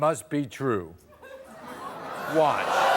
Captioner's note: crowd laughing